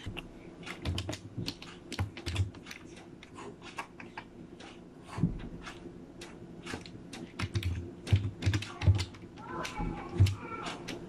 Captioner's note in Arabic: صوت كتابة بواسطة لوحة المفاتيح